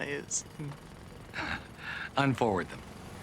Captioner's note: chuckles